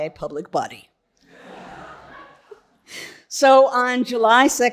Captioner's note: audience laughing